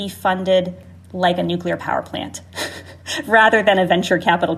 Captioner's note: chuckles